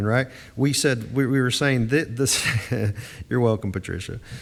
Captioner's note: chuckles